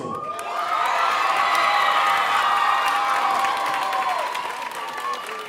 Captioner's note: audience cheering and applauding